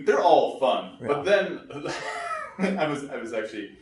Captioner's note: laughs